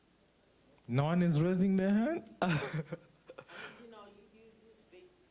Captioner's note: laughs